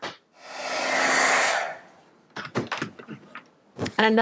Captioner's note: air blows